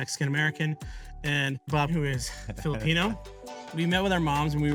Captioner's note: chuckles